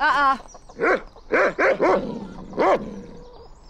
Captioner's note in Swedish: skäller